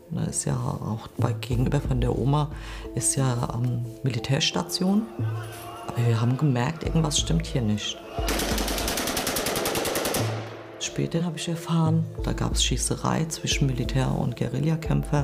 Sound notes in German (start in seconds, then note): 8.2 Mehrere Schüsse fallen